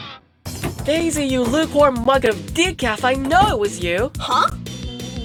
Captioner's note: door opens and slams